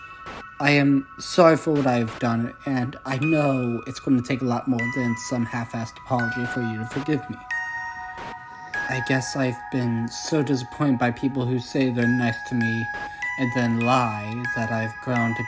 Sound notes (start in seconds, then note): none